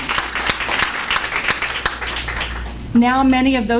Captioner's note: applause